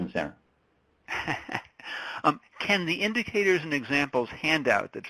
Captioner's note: laughs